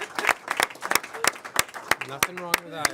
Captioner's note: applause